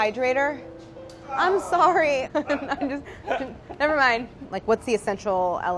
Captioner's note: laughs